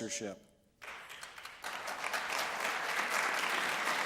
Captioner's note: applause